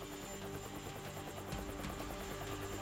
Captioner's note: helicopter blades whirring